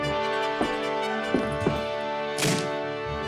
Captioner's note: doors crash